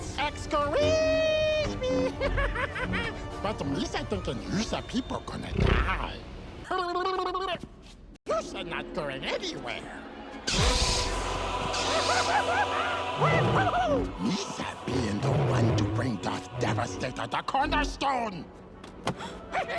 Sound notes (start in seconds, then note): 1.7 laughing maniacally; 10.6 laughing maniacally